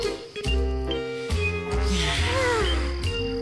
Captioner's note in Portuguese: suspiros